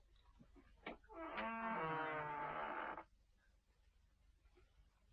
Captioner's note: door creaking